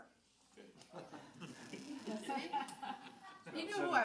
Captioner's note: audience laughs